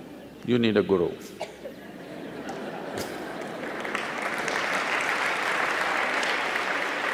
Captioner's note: laughter/Applause